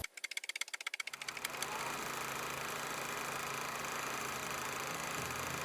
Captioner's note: old movie reel clicking